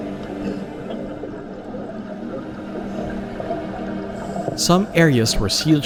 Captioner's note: water gurgles; solemn music